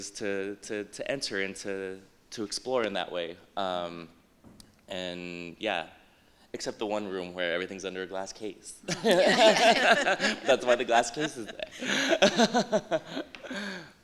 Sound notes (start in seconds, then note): 8.8 laughter; 12.0 chuckles